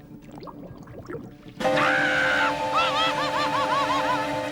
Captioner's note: screams